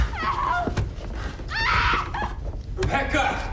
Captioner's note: Rebecca screams